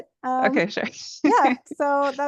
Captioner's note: laughs